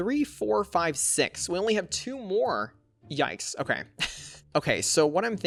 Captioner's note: chuckles